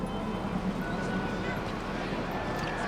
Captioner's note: voices and traffic noises